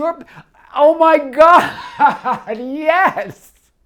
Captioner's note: laughs